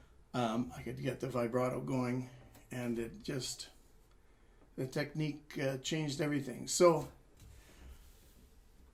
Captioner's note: italian 00:02:38